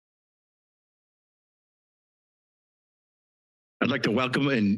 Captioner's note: silence